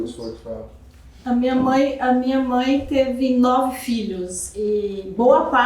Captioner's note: speaking portuguese